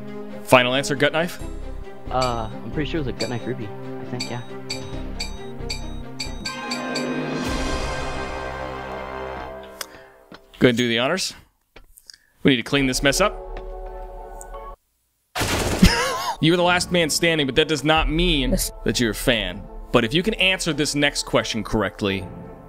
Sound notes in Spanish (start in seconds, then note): 15.4 disparos; 15.8 se ríe